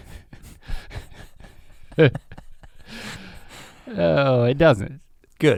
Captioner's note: both chuckle